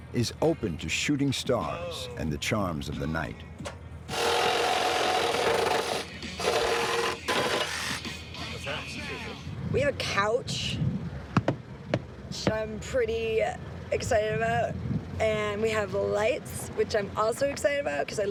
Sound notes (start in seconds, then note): 4.0 loud drilling